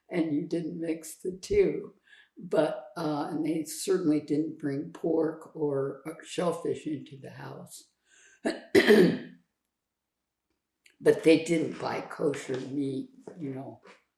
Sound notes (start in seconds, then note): 8.4 clears throat